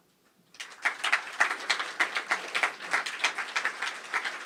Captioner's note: applause